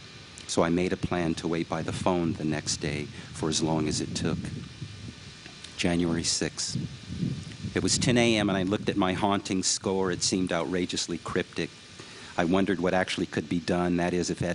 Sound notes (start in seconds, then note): none